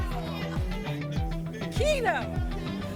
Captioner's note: audience shouting games